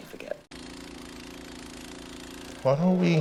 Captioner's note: snowblower whirling